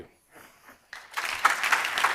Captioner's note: applause